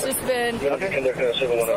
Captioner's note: radio chatter